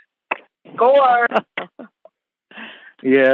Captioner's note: chuckle